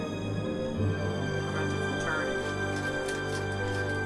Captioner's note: sounds of YouTube mechanic tutorial; sweet packet rustles